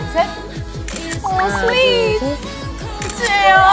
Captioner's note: pat, pat